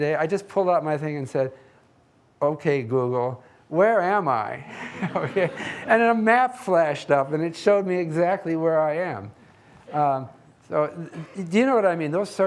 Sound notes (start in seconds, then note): 4.8 audience laughing